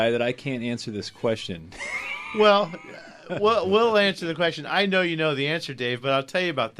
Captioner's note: laughs